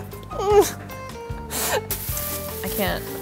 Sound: whimpers

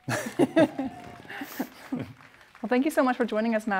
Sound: audience cheering; laughs

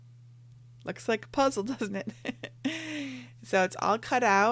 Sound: laughing

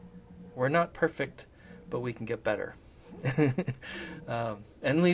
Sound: laughs

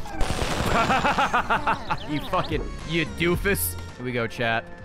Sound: laughs

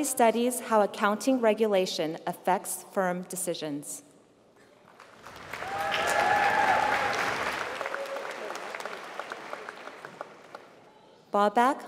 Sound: applause

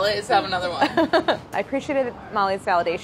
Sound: laughs

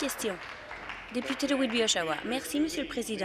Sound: applause

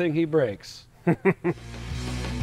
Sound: laughs; rock music

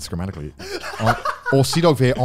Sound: laughing

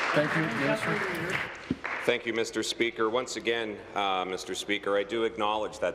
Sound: applause

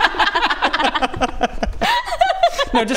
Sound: giggles

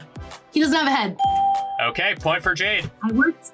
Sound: bell rings

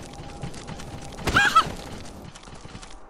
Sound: surprised squeal

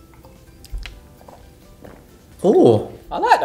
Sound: glugging

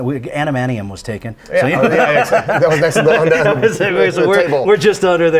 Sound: both laughing

